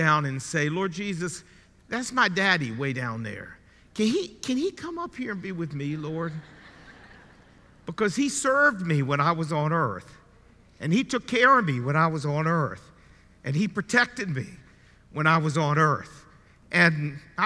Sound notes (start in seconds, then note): 6.2 audience chuckling